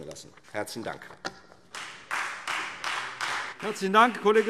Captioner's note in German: Beifall Freie Demokraten